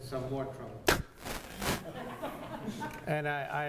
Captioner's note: audience laughter